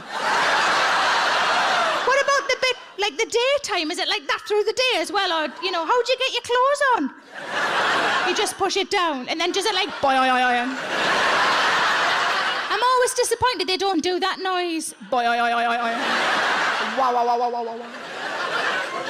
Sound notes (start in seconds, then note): 0.0 audience laughs; 7.2 audience laughs; 11.1 audience laughs; 15.7 audience laughs